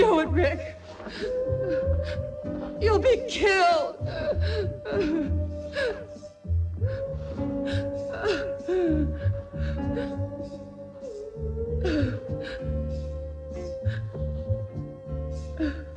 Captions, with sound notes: Don't do it, Rick! You'll be killed! (Kinojo whimpering) (eerie music)